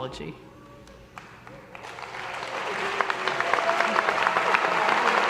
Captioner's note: audience applause